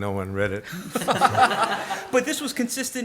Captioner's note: audience laughs